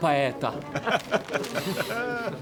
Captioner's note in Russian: смех